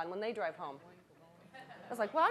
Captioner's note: audience chuckling